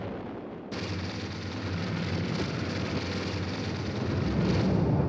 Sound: flames crackling

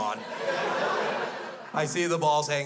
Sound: crowd laughs

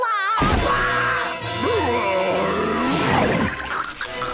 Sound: screaming; growling

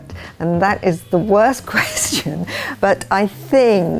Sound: chuckles

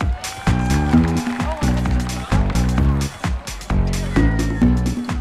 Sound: crowd cheering and applauding

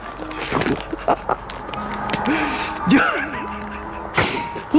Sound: breath

